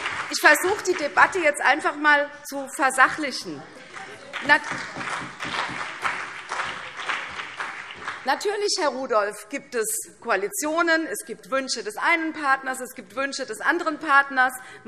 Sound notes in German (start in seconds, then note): 0.0 Beifall CDU und BÜNDNIS 90/DIE GRÜNEN; 3.6 Vereinzelter Beifall CDU und BÜNDNIS 90/DIE GRÜNEN